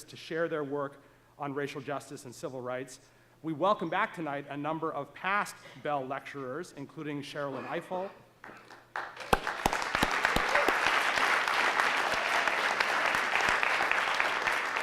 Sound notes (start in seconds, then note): 8.5 audience applauding